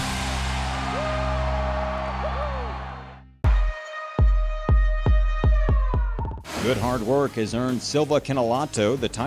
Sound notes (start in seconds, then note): 1.1 man shouts; 3.6 siren